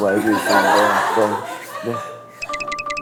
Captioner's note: haha